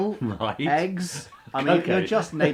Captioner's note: laughs